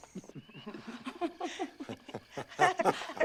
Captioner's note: laughter